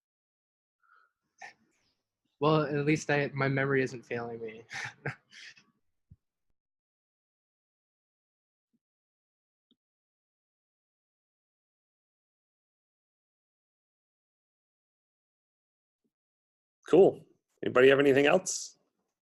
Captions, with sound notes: - At least my memory isn't failing me (chuckles). - Cool. Anybody have anything else?